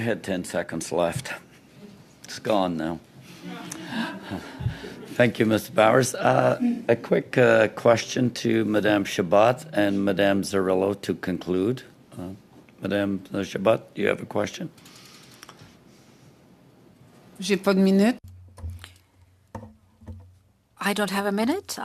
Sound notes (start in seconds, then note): 5.8 laughter